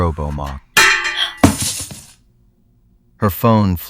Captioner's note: SFX: metallic clang, surprised gasp